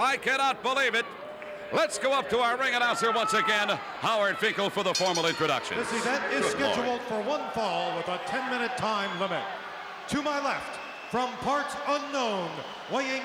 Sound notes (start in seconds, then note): 4.9 bell rings